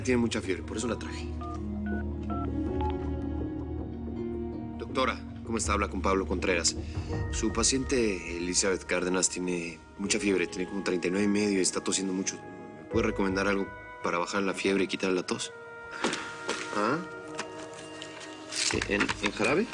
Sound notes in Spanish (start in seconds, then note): 2.2 Ruido al marcar por teléfono